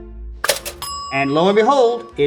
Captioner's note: bell pings